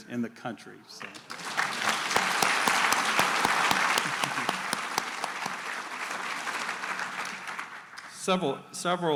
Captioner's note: applause